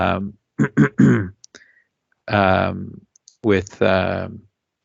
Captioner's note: clears throat